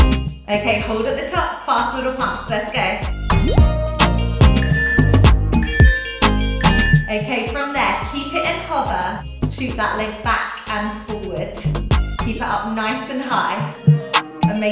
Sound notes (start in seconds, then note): 4.5 timer beeping